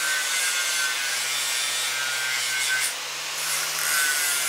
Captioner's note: machine whirring; metal grinding